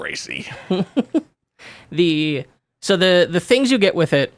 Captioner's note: laughing